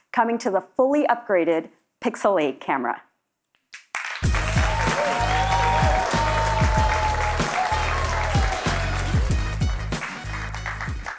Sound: cheers and Applause

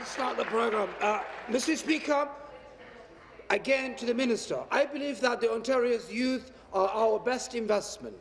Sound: applause

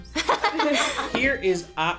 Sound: everyone laughs

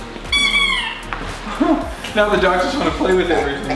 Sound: dog toy squeaks; laughs

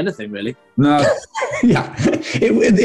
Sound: laughing

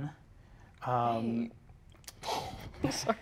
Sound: laughs

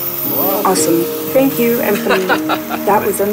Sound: man laughing

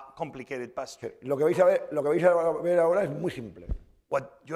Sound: speaking spanish

